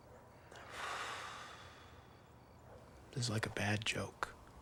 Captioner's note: Kevin sighs